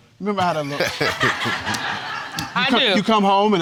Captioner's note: all laughing